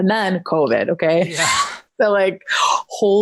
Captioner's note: chuckles